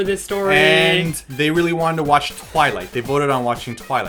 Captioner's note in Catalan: barf